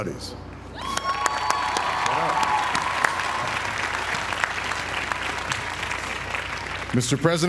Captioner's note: applause